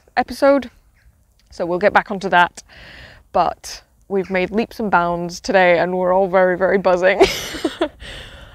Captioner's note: laughs